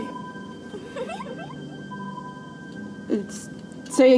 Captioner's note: child giggles